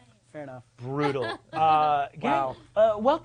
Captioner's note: laughs